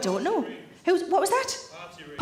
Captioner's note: man speaking